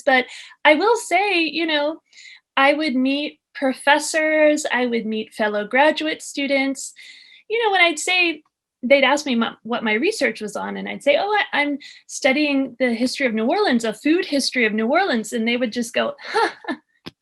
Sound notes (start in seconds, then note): 16.2 laugh